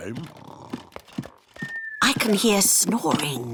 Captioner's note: snoring